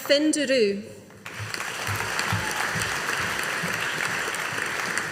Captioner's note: audience applauding